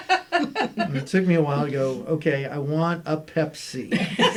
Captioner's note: laughter